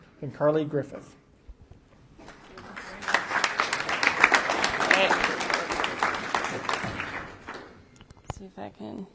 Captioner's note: applause